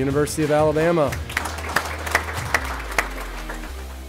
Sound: applause

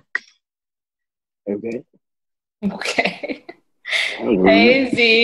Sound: laughing

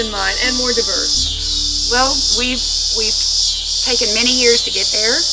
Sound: crickets chirp

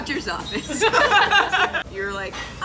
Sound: laughing

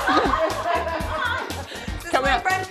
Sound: shrieking; people laughing

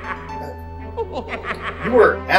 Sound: skeleton cackling; Skeleton chortling

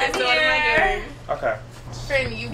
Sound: male Voice

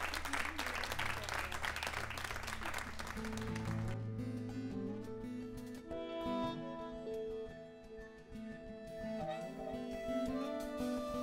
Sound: applause

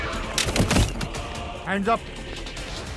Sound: door opens

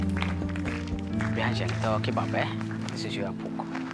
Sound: speaking Somali

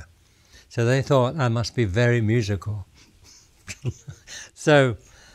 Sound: laughs

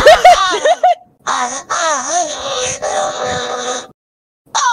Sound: Spongebob robotified moaning

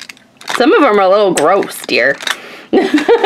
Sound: laughs

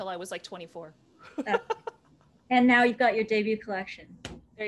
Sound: laughter

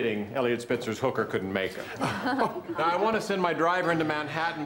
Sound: laughter

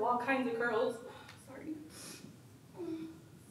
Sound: sniffs

